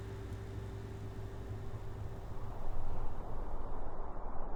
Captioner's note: wind whistling